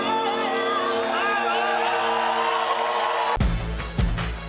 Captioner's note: cheering